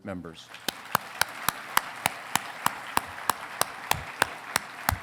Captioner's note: congregation clapping